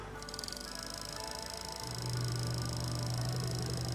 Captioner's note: film reel whirring